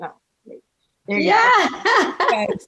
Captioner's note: chuckling